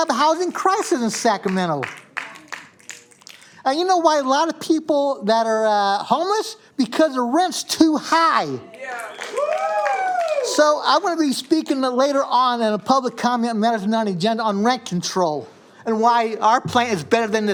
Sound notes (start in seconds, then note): 8.7 cheers and applause